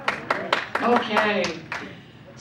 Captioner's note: audience applauds